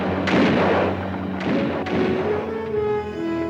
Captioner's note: guns fire